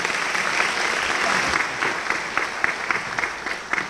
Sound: applause

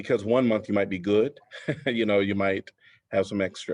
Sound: laughter

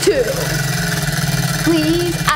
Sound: wheel clicks

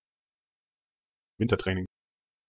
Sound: fast Pronunciation

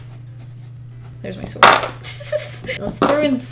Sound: giggles

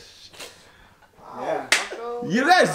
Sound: disappointedly

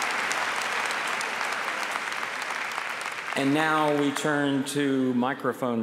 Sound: applause

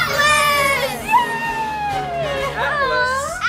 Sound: cheers

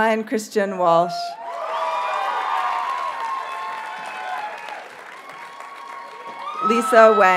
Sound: audience cheers and applauds

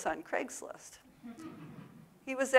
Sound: audience laughs

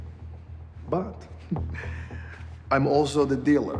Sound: chuckles

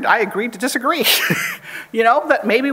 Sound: chuckles

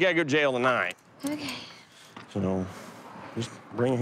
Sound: sighing

